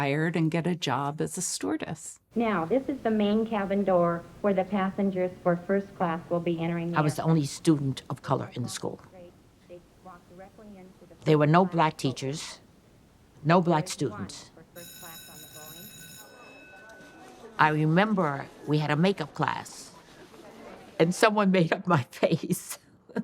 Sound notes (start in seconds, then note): 14.7 bell ringing; 23.0 laughs